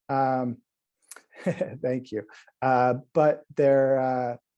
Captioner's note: chuckling